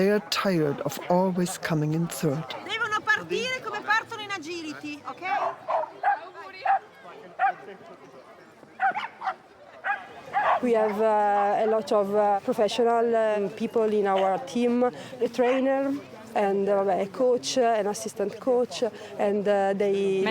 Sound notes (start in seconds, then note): 3.0 woman speaking Italian; 5.9 dogs barking